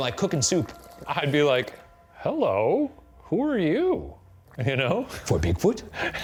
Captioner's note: laughing